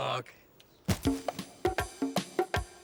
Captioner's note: thud; jazzy music